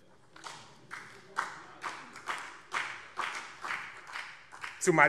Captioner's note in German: Beifall BÜNDNIS 90/DIE GRÜNEN